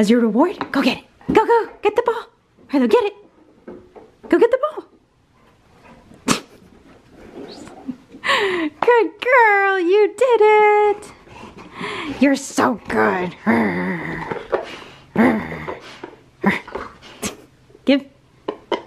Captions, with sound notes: As your reward. Go get it. Go go, get the ball. Harlow get it. Go get the ball. (laughs) Good girl, you did it. You're so good. (growls) Give.